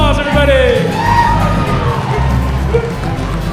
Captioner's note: applause